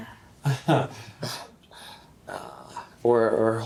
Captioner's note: Randall chuckles